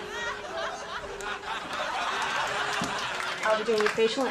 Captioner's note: audience laughing